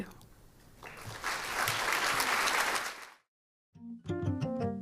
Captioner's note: applause